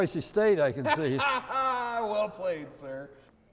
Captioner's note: laughs